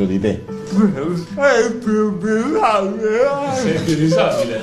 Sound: laughs

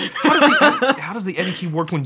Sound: both laughing

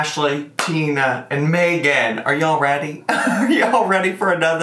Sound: laughs

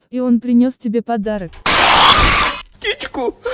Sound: bird screamer

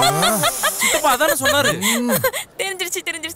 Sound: laughs

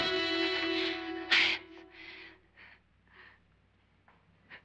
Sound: suspenseful music; whispers

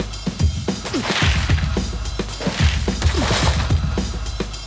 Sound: glass shattering

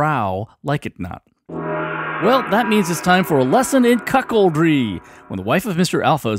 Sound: sound of a gong

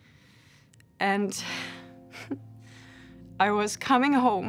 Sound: chuckles softly

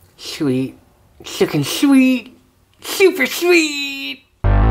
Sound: with lisp

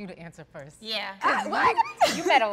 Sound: chuckles

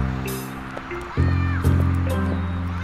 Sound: footsteps

